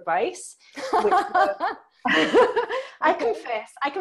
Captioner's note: both laugh